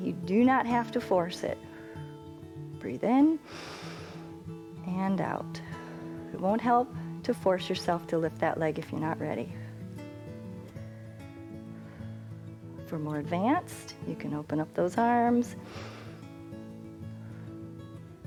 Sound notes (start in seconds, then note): 3.4 exhales; 3.4 inhales